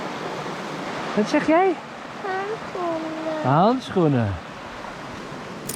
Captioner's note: foreign language